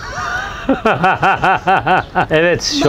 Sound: laughter

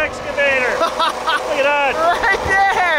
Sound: laughing

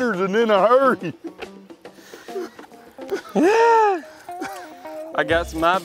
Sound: laughs

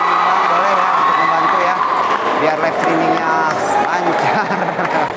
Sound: applause

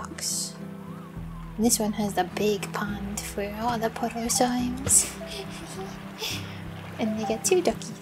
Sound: giggling

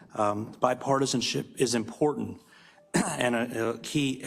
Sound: cough

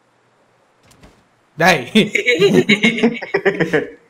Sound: all laugh

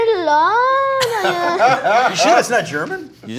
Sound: laughs

